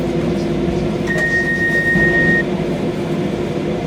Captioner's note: doors opening chime